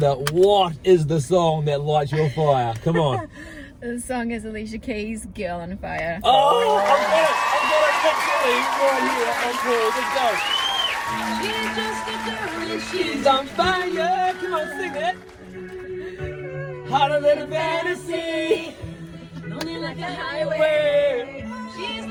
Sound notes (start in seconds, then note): 1.8 laughs; 7.2 audience cheer